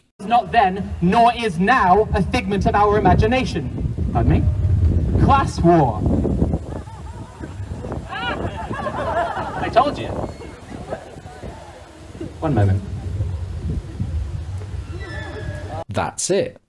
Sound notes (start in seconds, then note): 6.4 crowd laughs